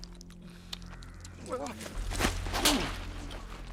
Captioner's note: grunting